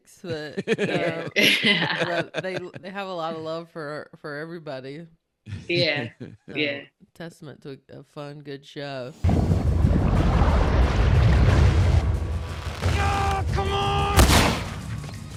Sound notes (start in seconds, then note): 0.1 laughing; 9.2 water bubbling